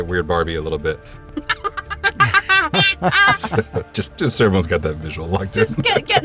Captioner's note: laughs